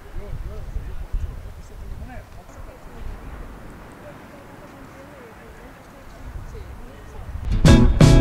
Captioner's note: wave noise